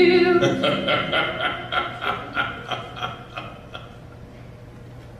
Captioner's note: laughs